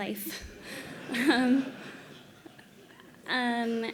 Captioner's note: laughter